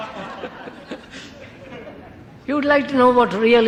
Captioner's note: laughter